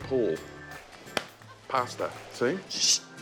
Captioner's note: whack!